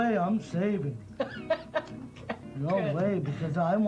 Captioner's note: laughter